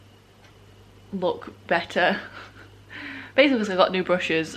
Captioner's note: laughs